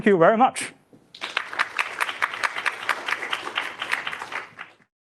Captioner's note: applause